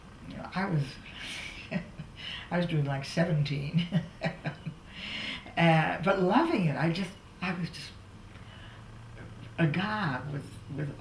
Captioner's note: laughs